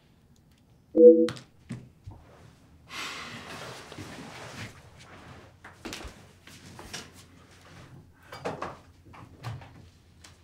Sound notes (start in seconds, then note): 2.7 sigh